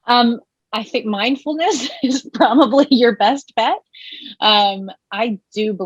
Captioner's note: laughing